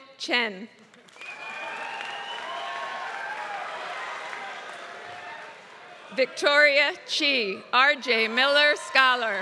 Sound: applause

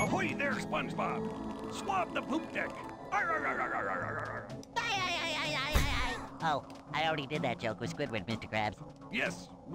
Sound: laughs

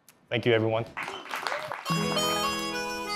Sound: applause

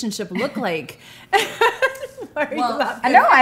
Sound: laughing

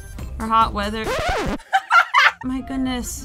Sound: record scratching; laughs

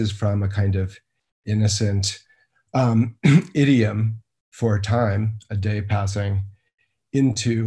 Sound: coughs

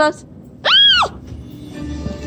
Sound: screams

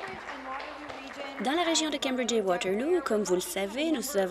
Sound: some Applause

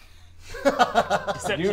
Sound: laugh

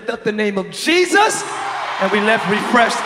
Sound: audience applause

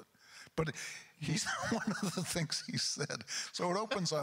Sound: laughs

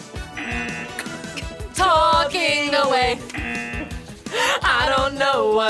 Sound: buzzer; buzzer

